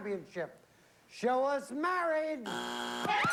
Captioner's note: buzzer